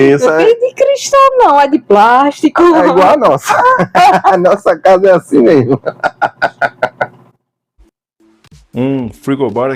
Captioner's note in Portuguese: risadas